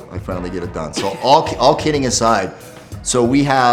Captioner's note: Jillian laughs